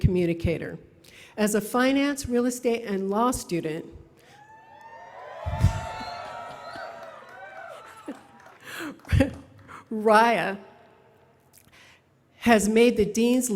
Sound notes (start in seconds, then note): 4.7 applause; 8.9 laughter